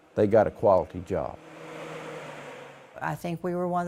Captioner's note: blower door fan whirring